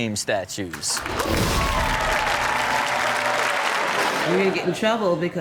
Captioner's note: audience clapping and cheering